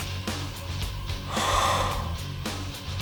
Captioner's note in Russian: дыхание